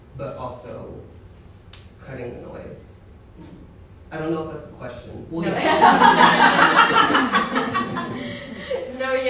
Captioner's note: laughter